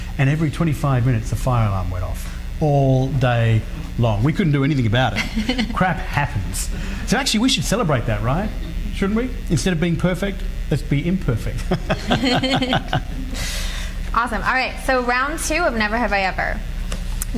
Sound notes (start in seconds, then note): 5.1 laughs; 11.6 laughing